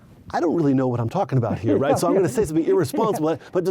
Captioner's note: laughs